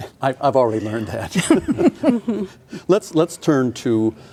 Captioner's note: laughing